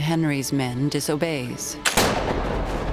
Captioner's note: gunshot